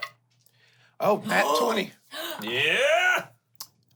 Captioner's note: gasps